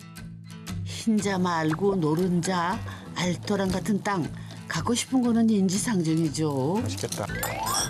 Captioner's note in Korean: 지글 지글